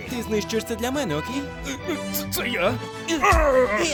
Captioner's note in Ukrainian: кряхтіння